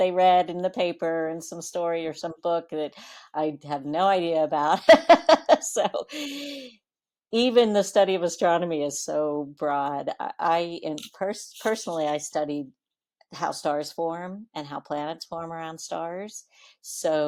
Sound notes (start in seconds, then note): 6.1 laughs